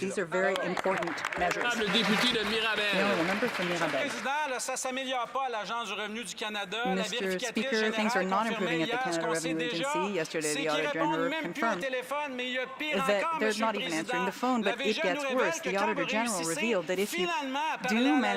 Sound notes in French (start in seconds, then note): 6.8 voix de l'interprète